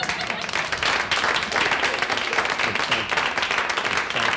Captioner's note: audience applauds